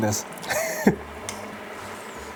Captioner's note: laughs